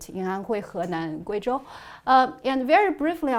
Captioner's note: speaking in foreign language